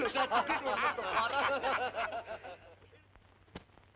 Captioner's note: laughing - chattering